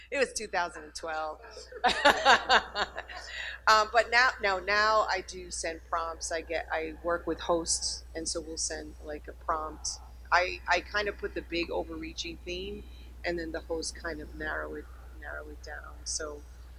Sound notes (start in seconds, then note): 1.3 laughing